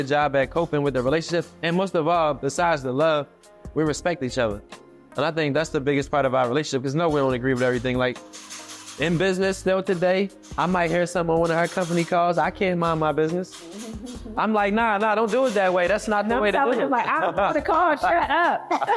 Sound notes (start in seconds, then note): 13.7 chuckling